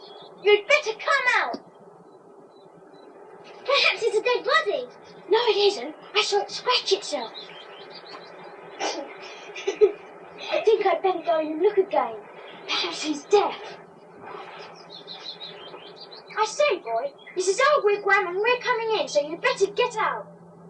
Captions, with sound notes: You'd better come out! Perhaps it's a dead body! No it isn't - I saw it scratch itself *Ruth giggles* I think I'd better go in and look again perhaps it's deaf I say boy, this is our wigwam and we're coming in so you'd better get out